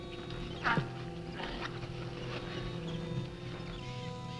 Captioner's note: men grunting